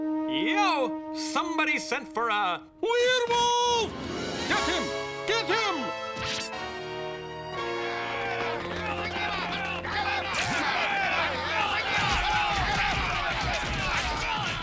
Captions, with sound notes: Yo, somebody sent for a... Werewolf! Get him. Get him. (VILLAGERS CLAMORING) (VILLAGERS YELLING)